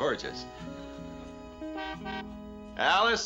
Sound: horn honking

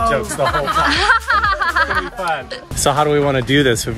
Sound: kids laugh

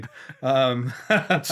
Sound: laughs

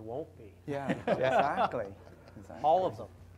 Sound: men laughing

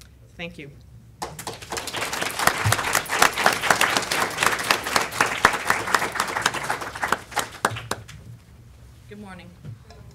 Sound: applause

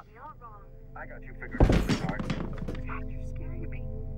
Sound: lamp rattles

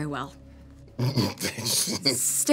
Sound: laughter

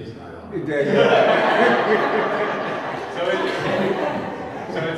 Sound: everyone laughs

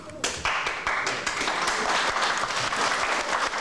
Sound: applause

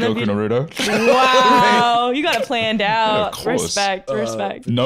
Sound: laughing

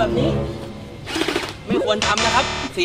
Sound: gunshot firing

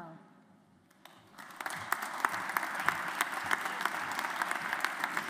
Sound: audience applauds

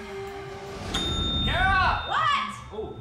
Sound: bell ringing

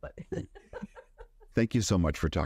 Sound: laughter

